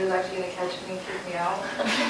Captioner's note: laughter